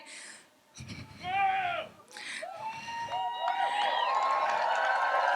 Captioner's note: audience cheers